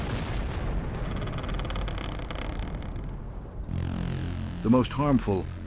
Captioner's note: creaking trees